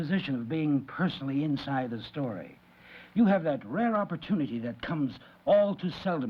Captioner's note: none